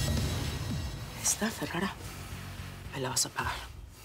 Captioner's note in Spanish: susurra